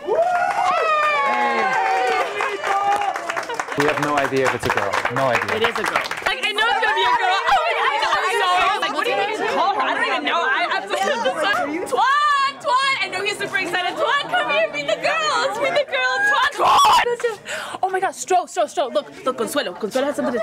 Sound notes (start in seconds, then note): 2.1 clapping; 7.1 chattering